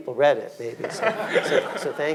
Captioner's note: audience laughing